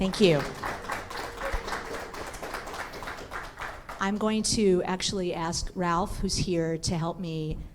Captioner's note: applause